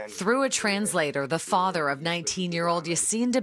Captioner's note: alternate language